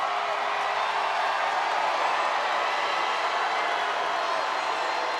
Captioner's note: audience cheering